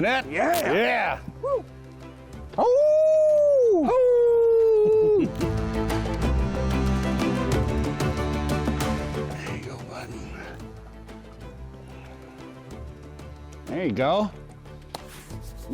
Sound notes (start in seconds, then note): 2.7 both howling; 5.5 inspiring music